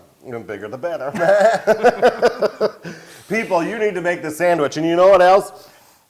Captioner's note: laugh